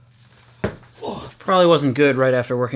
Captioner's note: grunts